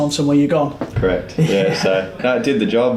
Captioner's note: man chuckles